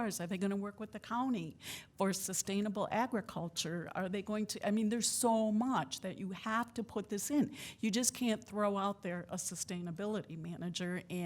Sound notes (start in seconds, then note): none